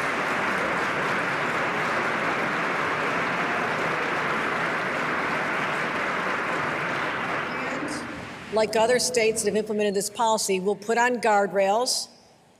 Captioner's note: applause